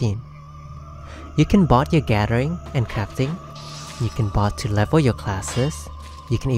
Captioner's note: crafting noises